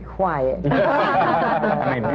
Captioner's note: laughter